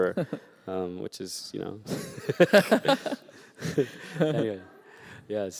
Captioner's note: laughter